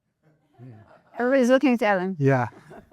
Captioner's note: laughter